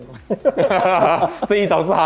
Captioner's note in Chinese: 心虚笑